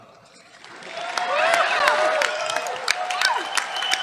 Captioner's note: cheers, applause